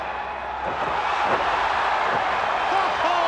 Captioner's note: audience cheers